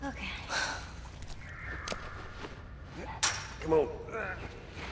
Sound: sighs; faint growling; moans

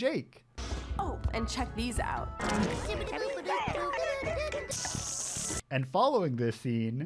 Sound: creatures blabbering

